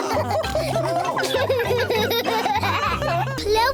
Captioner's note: all laughing; laughs